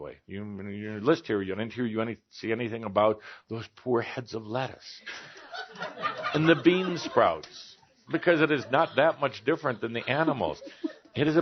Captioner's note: śmiech